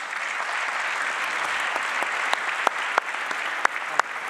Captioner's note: applause